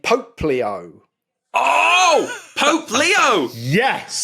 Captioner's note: wheezes